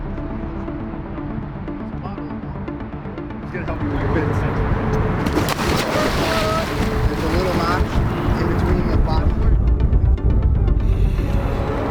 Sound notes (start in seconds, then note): 4.0 water splashing; 8.5 suspenseful music